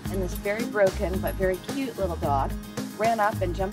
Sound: none

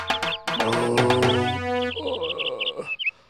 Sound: burping

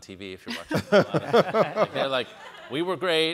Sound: all laugh

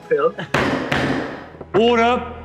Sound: hammer slams

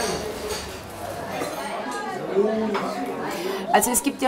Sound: babble of voices

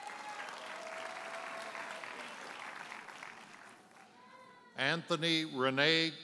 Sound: audience cheers and applauds

